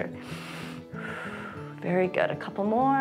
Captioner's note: inhales and exhales